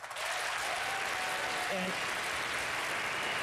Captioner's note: applause